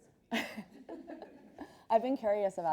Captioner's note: laughs